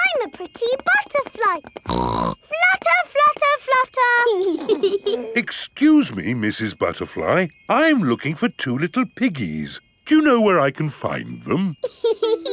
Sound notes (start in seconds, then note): 1.8 snorts; 4.4 both giggling; 11.8 laughs